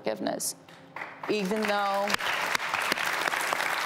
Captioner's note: audience clapping